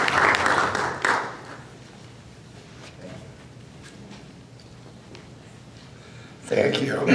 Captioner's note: applause